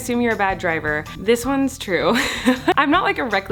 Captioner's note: laughs